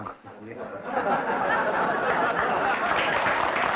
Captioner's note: laughter; applause